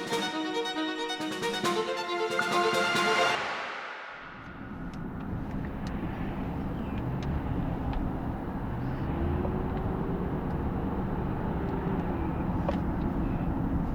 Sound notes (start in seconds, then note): 0.0 staccato strings music continues; 4.9 car engine humming